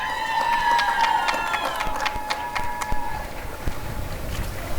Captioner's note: applause and cheering